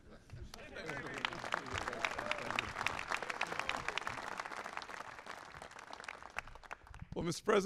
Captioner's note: applause